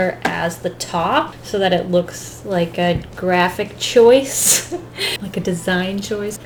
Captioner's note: chuckles